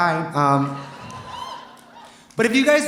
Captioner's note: audience cheering; audience laughing